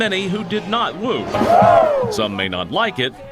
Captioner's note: crowd